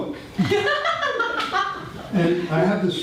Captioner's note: audience laughter